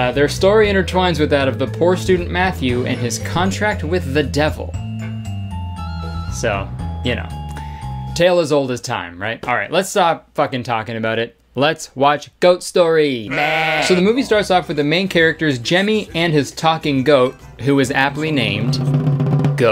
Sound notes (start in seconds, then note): 4.8 whimsical music; 13.2 goat bleating; 18.2 drum rolling